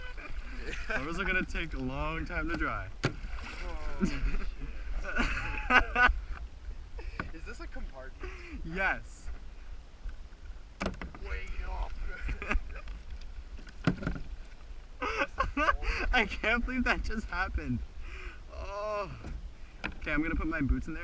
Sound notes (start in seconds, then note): 3.9 more laughter; 15.0 laughing uncontrollably